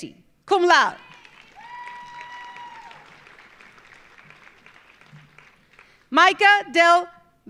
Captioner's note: audience cheering; audience applauding